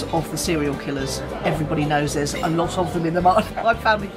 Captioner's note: laughs